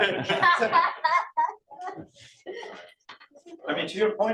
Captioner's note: laughter